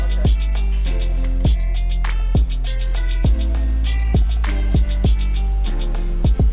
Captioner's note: upbeat music; tape unwrapping